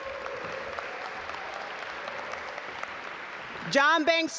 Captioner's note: audience applaud